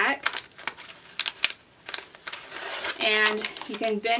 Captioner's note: mat shuffles